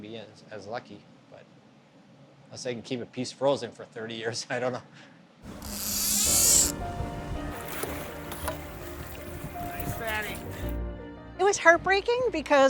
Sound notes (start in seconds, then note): 9.3 bright instrumental music; 9.3 fishing reel zipping